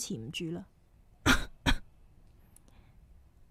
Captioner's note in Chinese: 咳咳